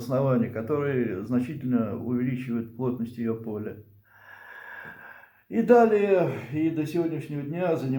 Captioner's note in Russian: тяжело вздыхает; вздыхает